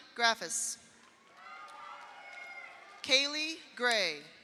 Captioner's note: audience applauds; audience cheers